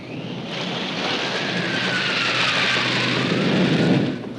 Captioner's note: whoosh